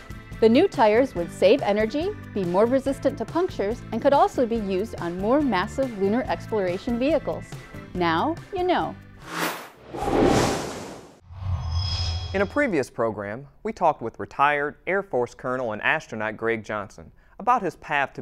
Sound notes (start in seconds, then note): 9.2 sound Effects